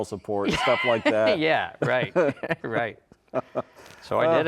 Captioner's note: both laughing